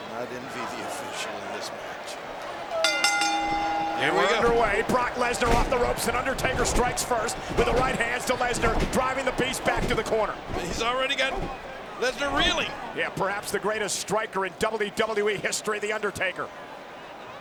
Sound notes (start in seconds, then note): 2.8 bell ringing